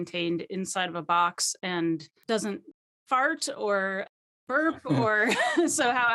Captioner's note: laughing